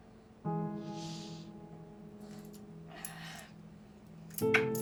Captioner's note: deep breath in and exhale